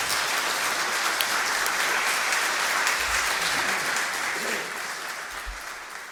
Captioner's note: applause